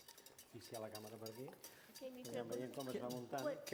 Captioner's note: non-english speech